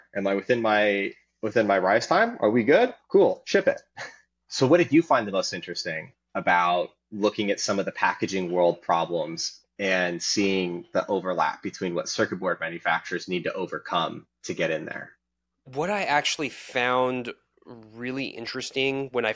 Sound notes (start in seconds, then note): 3.8 chuckling